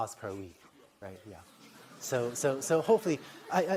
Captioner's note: laughter